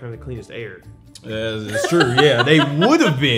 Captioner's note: laughing